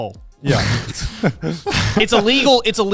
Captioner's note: chuckles